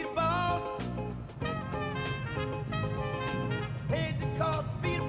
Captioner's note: car approaching